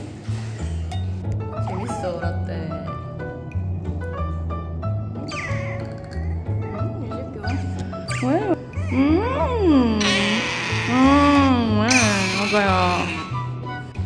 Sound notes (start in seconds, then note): 6.4 the sound of crying